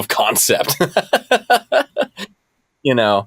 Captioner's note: laughter